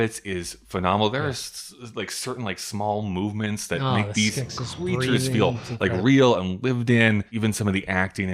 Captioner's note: the skesis breathing